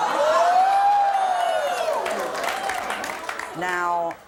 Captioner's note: audience cheers